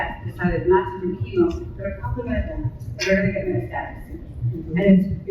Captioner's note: indistinct panelist chatter